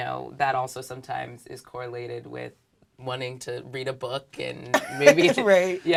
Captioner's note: laugh